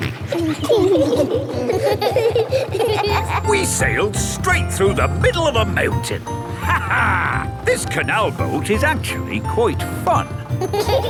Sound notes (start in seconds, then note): 0.0 kids laughing; 0.2 snorts; 7.5 laughs